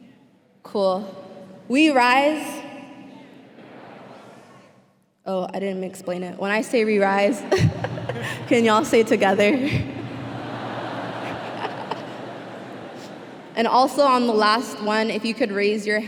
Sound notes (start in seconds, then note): 7.5 laughing; 10.0 laughter